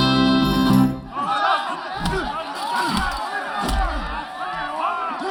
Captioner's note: punching, cheering